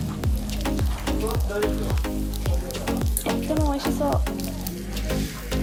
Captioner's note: speaking Japanese